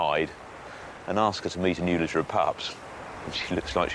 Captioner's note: none